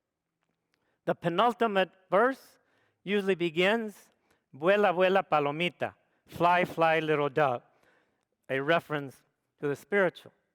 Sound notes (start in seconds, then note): 4.7 speaks foreign language